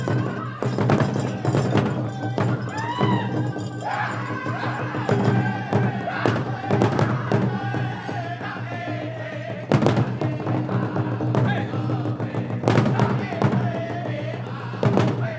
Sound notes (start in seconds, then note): 0.1 drum rolling; 0.1 lead singer singing; 2.9 dancer chants a shout; 4.1 singers singing with high cadence